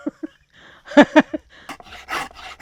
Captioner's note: laughs